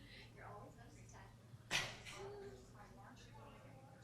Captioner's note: people murmuring